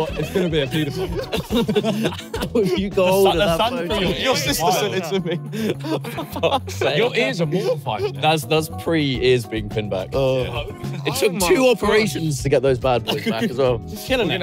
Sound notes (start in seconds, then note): 1.7 both laughing; 3.1 everyone chatting and laughing